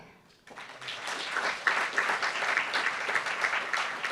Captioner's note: applauds